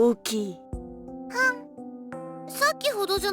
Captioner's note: dismissive grunt